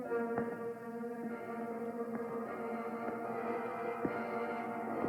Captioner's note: quiet footsteps